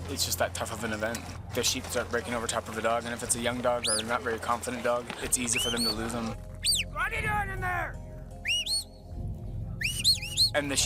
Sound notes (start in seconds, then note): 5.7 whistling; 7.5 handler yelling; 9.7 whistling